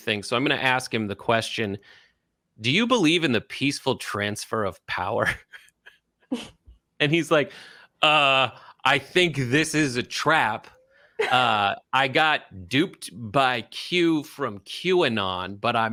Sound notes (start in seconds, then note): 5.6 laugh